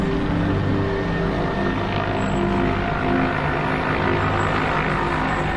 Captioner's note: helicopter whirs